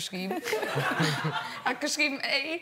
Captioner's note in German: Gelächter